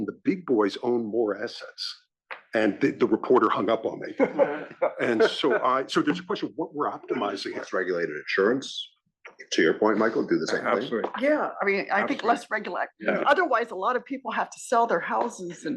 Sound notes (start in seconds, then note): 2.5 laugh